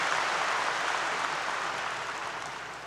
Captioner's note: applause 👏 👏